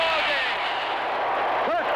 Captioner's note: fans cheering